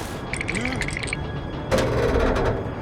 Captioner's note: teeth chattering; pipes creaking